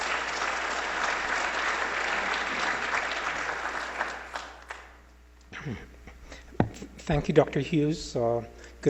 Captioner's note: applause